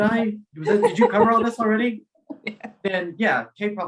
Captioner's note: laughing